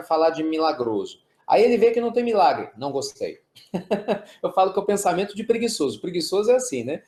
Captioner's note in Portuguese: risos